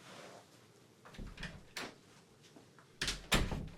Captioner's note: door opens and closes